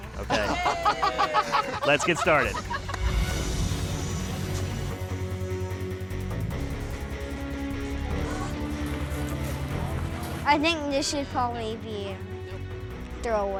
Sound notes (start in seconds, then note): 0.2 laughter; 5.1 ominous music playing